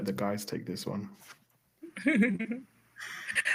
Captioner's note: laughter